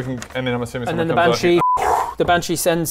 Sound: whoo

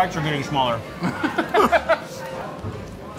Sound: laughing

